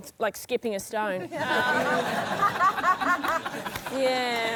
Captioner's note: laughter